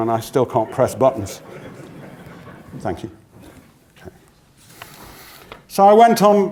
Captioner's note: laugh